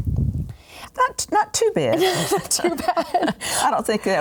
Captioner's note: laughs